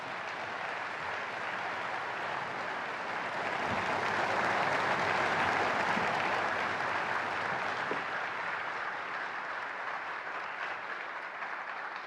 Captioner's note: applause